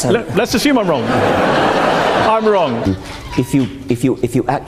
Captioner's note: audience laughs